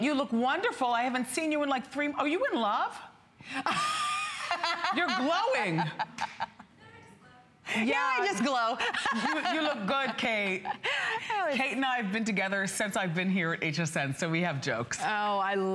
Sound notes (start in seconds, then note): 3.6 laughter